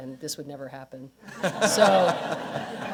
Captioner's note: laughter